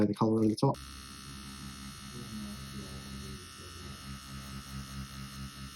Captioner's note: machine vibrates